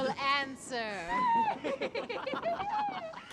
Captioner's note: giggling